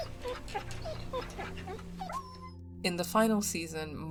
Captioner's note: dog whimpers